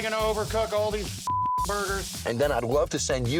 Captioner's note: beep